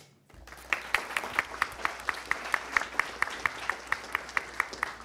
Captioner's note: attendees applauding